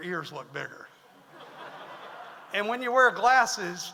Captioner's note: audience laughs